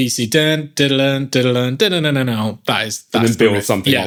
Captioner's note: imitates riff